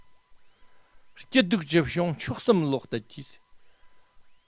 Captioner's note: tibetan